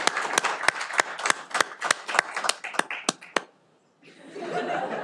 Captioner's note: cheering